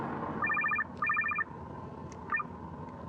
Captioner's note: phone ringing